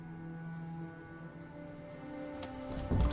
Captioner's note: soft music; door opens